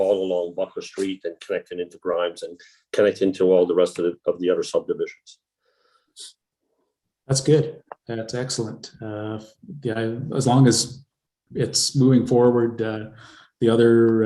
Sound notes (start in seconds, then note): none